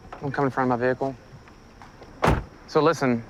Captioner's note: car door closes